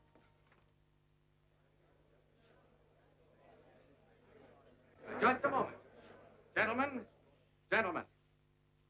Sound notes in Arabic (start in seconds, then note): 3.6 الجمهور يتحادث بخفة